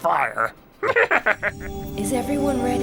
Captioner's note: giggling